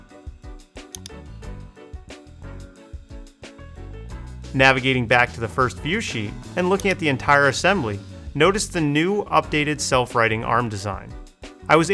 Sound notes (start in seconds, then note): 0.8 mouse clicking